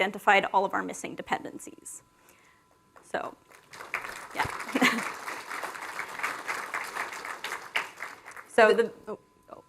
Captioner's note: applause